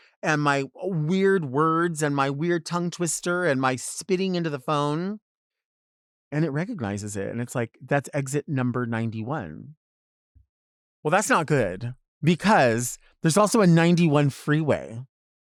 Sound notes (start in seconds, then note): none